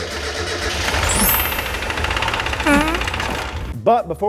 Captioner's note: car engine revving